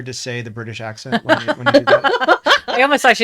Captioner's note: laughing; laughs